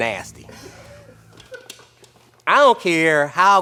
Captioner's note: laughing